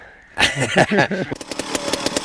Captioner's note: laughter